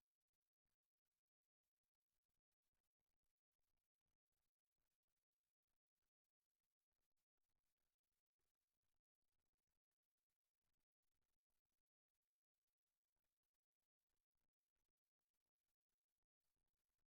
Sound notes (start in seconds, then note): none